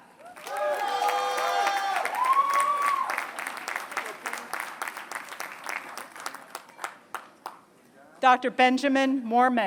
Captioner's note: applause